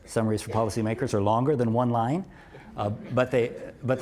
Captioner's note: laugh